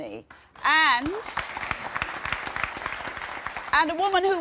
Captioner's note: applause